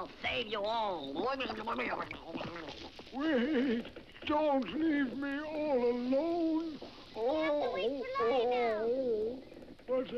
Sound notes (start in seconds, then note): 2.1 groans